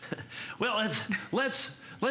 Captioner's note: laughter